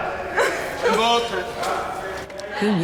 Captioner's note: laughs